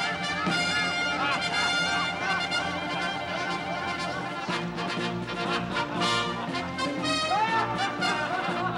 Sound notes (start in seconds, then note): 1.0 laughter; 4.2 cheering